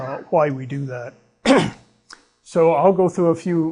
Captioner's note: clears throat